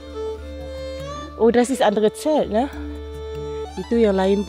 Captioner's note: speaking German